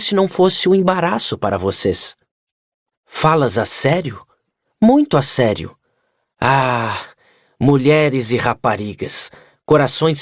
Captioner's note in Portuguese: suspirando